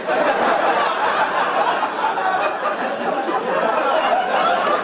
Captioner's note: audience laugh